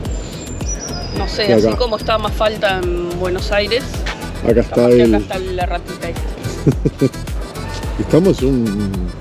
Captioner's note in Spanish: risas